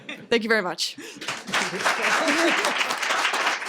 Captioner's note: laughter